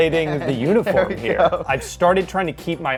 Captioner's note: laughs